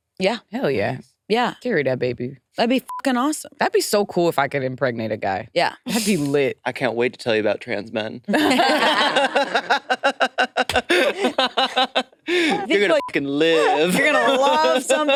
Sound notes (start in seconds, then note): 2.8 beep; 8.3 participants laughing; 12.9 beep